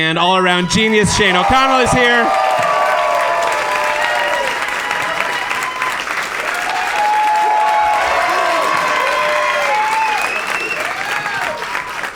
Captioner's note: extended audience applause